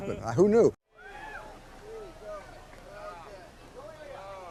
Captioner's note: cheers